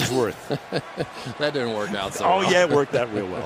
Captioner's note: laughs